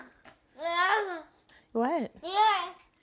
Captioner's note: child vocalizes